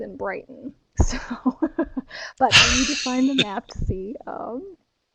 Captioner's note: laughs